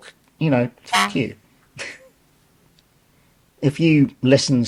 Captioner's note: honk